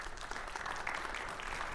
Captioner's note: audience applauding